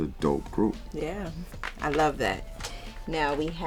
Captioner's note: record shuffling